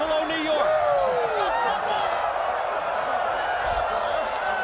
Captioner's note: audience cheering